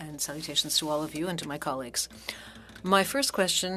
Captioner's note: speaking French